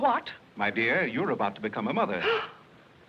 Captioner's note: gasps